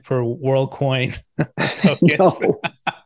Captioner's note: laughs